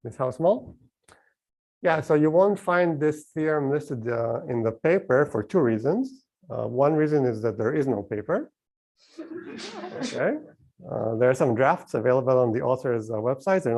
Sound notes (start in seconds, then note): 9.2 laughter